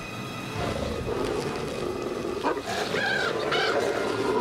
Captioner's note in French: grognement de loup